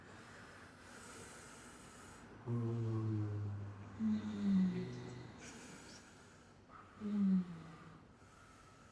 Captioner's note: moaning